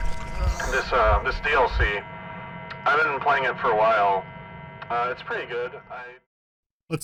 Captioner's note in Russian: голос звучит так, словно записывался с орбиты